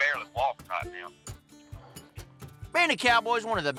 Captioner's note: exhales